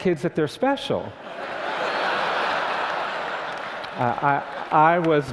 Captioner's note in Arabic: ضحك